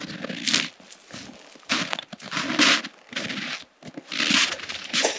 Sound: footsteps crunching

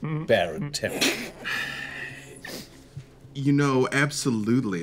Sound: snorting

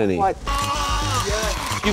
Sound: gurgling

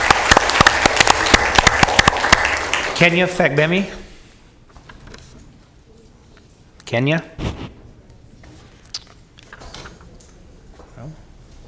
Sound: applause

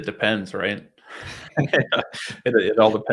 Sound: all laugh

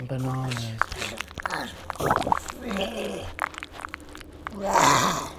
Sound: Dostoevsky gurgles

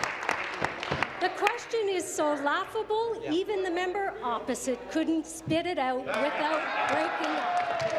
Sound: applause

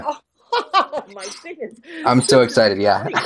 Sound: laughs

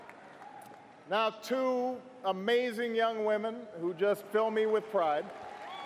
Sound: cheers & applause

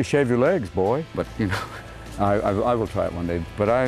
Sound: laughs

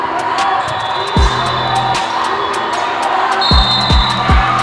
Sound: cheering

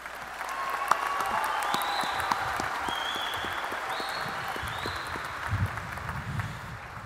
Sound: applause

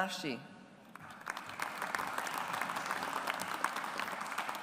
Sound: audience applauds

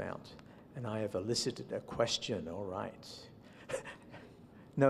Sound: laughs

